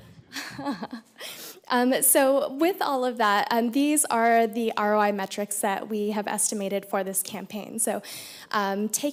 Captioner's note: laughter